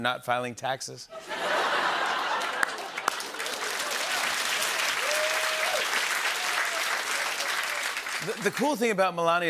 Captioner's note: laughter and applause